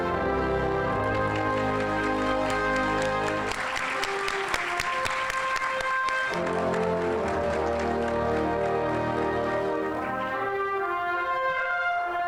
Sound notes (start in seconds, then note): 3.4 audience applauding; 7.5 instrumental music